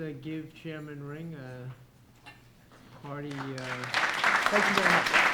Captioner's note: applause